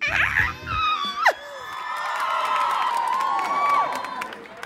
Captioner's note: crowd cheering